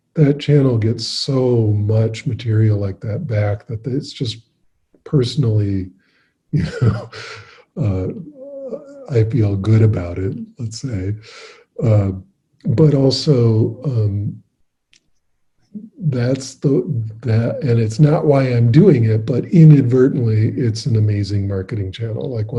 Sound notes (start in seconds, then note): 6.6 laughing